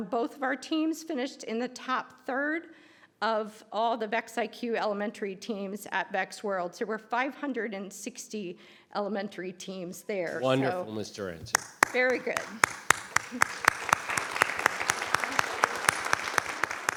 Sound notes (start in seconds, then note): 13.3 applause